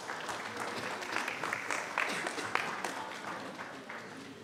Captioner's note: applause